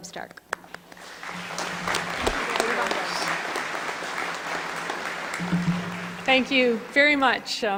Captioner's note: applause